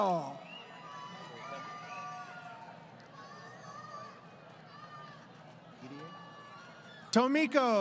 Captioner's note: crowd Cheering